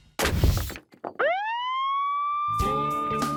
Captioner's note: siren wails